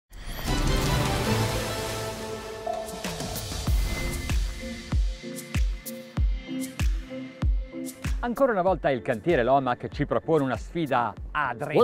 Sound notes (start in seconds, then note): 0.8 epic news program music; 2.7 sonar beeping; 3.7 bouncy, chill pop music; 8.3 speaking in Italian